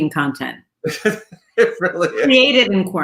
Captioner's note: laughs